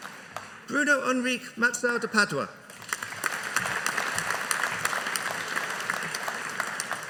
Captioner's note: audience applauding